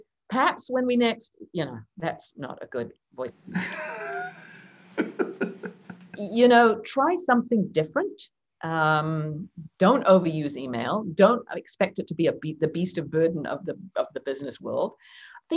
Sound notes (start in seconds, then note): 3.5 laughs